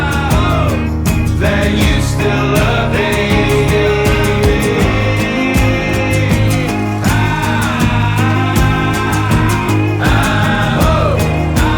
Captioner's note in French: chant